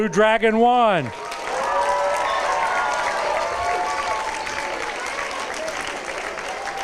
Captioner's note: applause, cheers